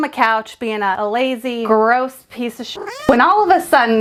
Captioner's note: cat mewls